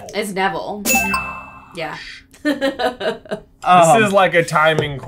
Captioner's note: laughs